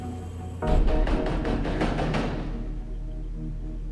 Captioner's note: pounding on the door